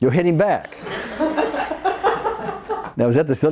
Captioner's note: audience laughs